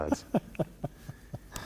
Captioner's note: laughter